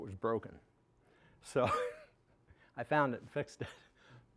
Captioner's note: chuckling